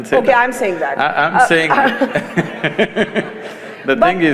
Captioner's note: laughs; laughter